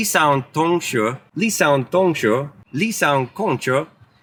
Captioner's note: speaking in Chinese